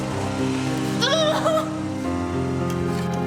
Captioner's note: grunting